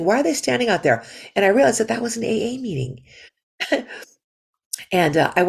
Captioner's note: laughter